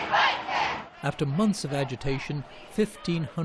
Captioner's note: chanting